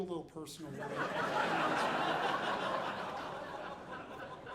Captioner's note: audience laughing